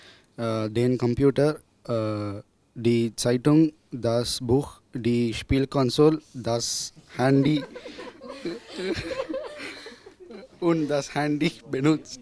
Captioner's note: students laugh